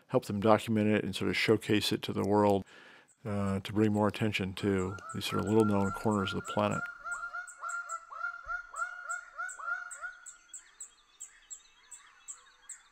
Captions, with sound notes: help them document it and sort of showcase it to the world to bring more attention to these sort of little known corners of the planet. (birds squawking)